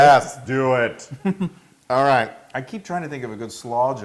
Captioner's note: laugh